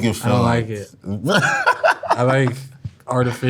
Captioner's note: laughs